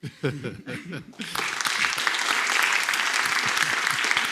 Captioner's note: applause